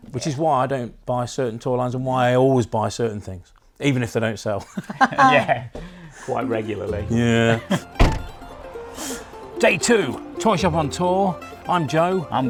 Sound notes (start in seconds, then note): 4.6 laughs; 7.7 boot slams